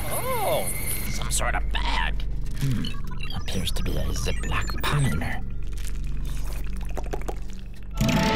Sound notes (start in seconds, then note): 6.3 slurping